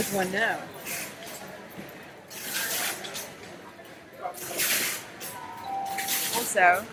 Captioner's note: shoppers chattering noisily; bell dinging